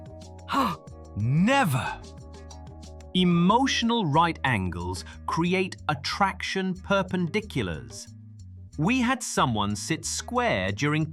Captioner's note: gasps